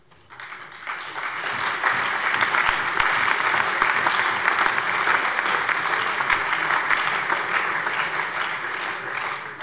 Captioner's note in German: Allgemeiner Beifall